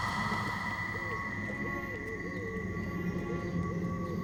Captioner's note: glass tinkling; owl hooting